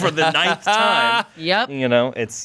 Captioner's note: laughs